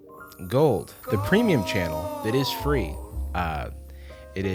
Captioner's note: disembodied voice